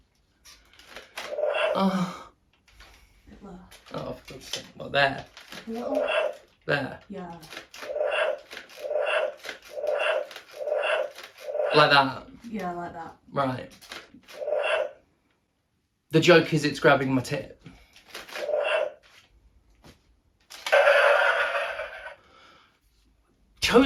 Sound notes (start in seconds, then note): 0.1 moan; 0.1 roar; 6.8 repeated roars